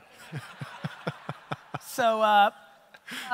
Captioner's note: audience laughter